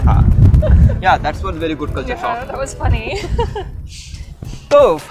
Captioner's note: both laughs